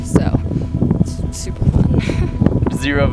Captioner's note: chuckles